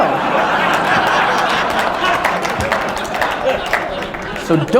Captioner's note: applause